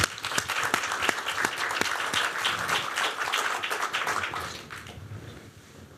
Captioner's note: applause